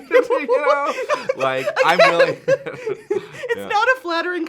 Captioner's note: laughing